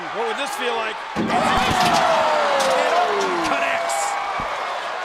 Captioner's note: applause